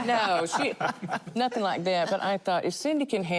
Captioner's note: laughter